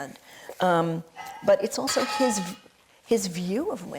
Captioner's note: metal clattering